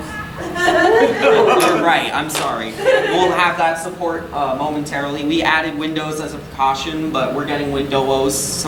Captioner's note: audience laughing